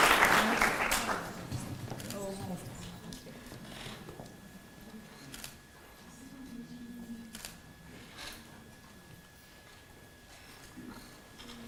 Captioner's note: applause